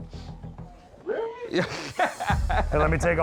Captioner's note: laughs